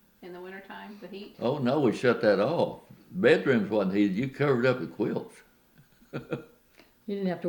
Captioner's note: laughs